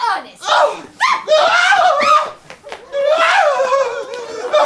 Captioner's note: Jack yells